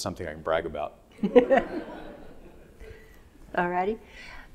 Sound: audience laughing

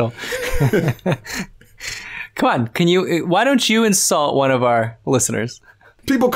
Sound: laughter

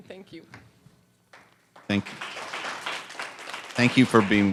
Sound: applause

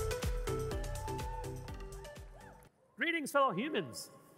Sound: lively music; audience cheering

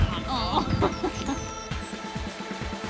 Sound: laughing

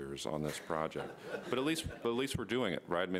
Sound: laughter

